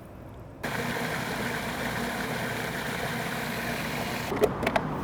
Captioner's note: food processor whirs